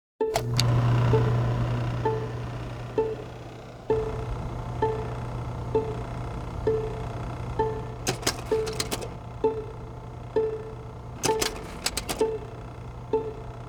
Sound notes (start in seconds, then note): 0.2 projector whirring; 0.2 rhythmic music; 8.1 rhythmic music; 8.1 slides clicking